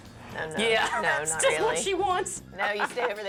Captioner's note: laughing